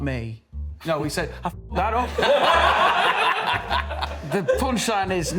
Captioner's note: laughter